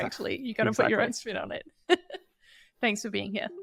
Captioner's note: chuckles